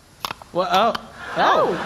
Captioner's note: clicking noises; more clicking noises